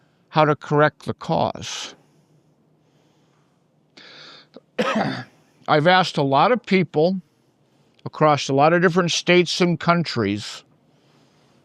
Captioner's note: coughs